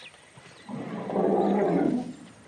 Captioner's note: growling